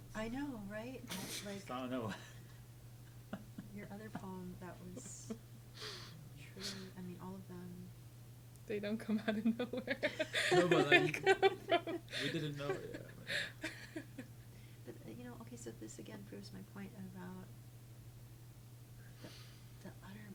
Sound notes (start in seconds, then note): 9.3 laughs